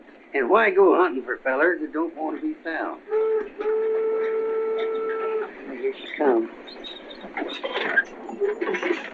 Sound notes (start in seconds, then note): 3.0 train whistles